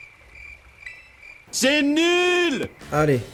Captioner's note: cricket noises; French dub